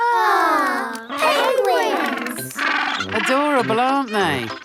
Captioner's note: penguins chatter